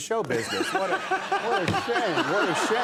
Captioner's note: Conan laughing